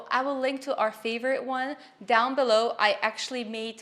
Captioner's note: none